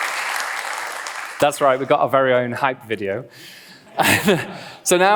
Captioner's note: applause; laughs